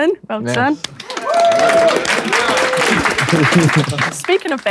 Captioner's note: people in room applauding